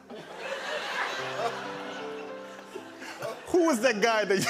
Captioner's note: laughter